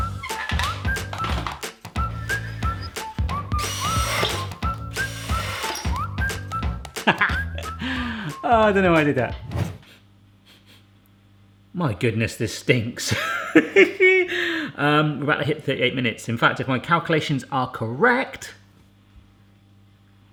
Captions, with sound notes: (rhythmic whistling) (drill buzzing) Ha, ha. Oh, I didn't wanna do that. (sniffing) My goodness, this stinks. We're about to hit 38 minutes. In fact, if my calculations are correct...